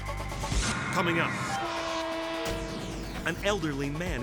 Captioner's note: tense music continues; train horn honking